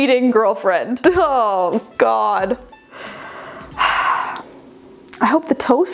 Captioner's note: sighing